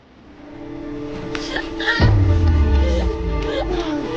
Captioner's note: muted crying; grunting